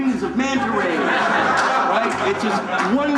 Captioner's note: laughter